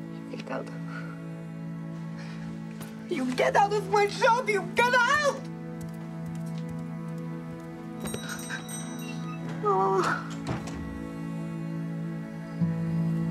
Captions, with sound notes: Get out. You get out of my shop, you get out! [Sobbing]